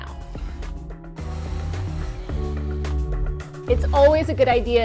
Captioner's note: drill buzzing